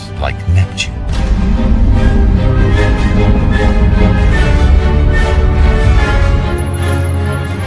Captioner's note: dramatic music continues; spaceship roaring